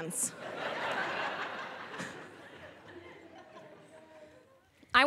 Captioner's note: audience laughing